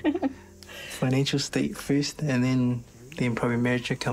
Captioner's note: laughs